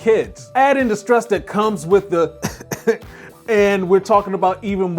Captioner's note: coughs